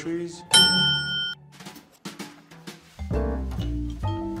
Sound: clock beeps

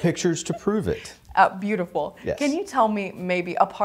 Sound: laughs

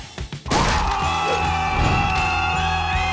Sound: screaming

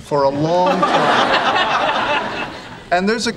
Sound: audience laughing

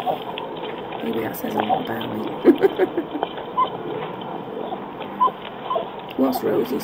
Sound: chuckles

